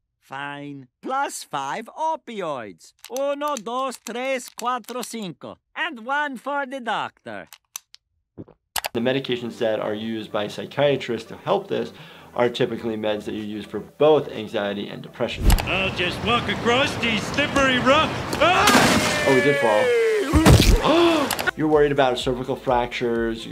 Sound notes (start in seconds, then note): 3.2 Dr. Nick speaks in Spanish; 8.2 gulps; 18.3 screams; 19.9 gasps; 20.3 body thuds